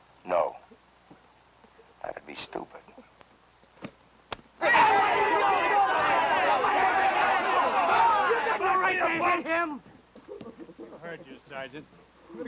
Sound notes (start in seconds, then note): 3.8 hand smacking; 4.6 men yelling